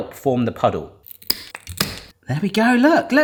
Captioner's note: sticks snapping